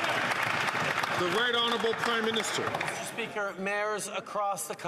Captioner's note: some Applause